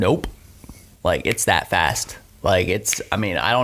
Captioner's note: fingers snapping